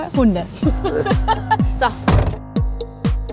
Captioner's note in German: lacht